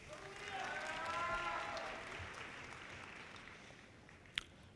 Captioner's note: audience cheers